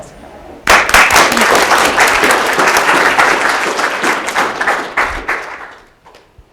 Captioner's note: applause